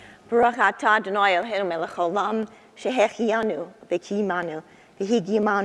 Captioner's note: speaking foreign language